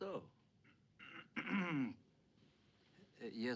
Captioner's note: brighton clears throat